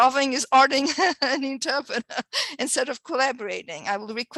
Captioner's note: chuckling